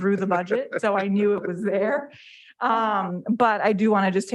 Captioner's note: board member chuckling